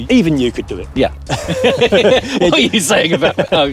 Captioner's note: both laugh